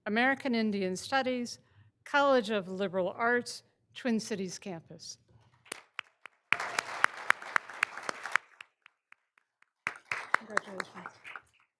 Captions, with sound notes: American Indian Studies, College of Liberal Arts, Twin Cities campus. (all applauding) Congratulations.